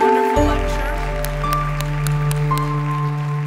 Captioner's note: applause